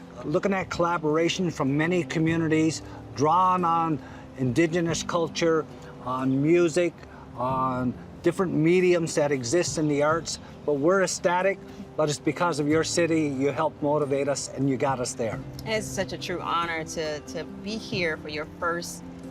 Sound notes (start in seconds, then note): none